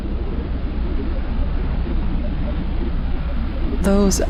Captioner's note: digital burbles over a bed of shifting white noise